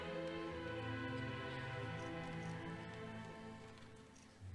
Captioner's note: none